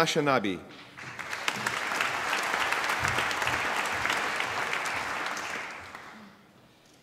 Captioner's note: applause